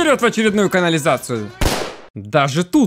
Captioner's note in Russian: выстрел